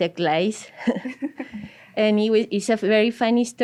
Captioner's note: laugh